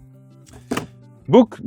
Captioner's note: book thuds